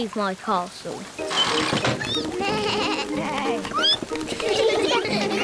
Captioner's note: all giggle